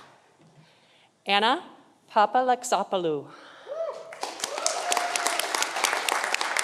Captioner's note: audience applauding